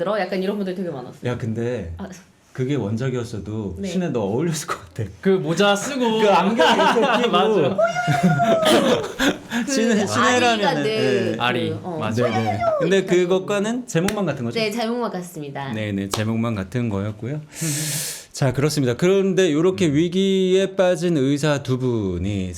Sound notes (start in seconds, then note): 7.7 shouting